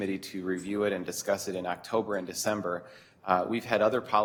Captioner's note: none